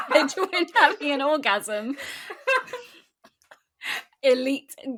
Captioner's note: both laughing